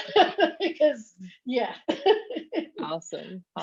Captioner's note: laughs